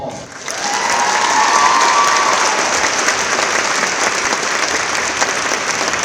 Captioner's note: applause